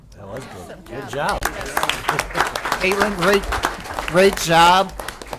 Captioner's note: applause